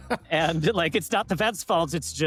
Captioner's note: laughs